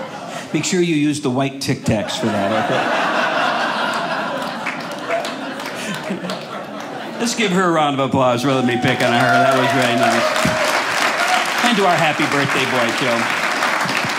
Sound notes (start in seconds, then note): 1.8 audience laughing; 10.5 audience applauds; 13.9 audience applauding